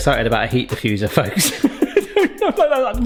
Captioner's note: laughs